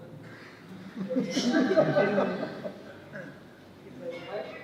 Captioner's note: laughter